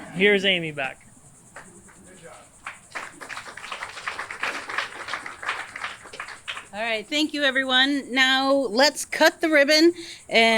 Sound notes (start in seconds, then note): 0.0 audience laughs; 2.5 audience applauds